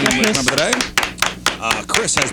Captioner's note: clapping